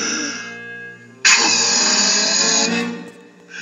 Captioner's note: blows